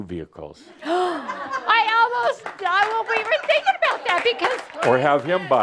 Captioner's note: some applause